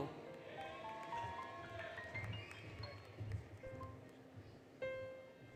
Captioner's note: applause, Cheering, Music